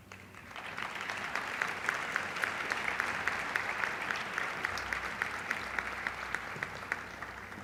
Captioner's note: applause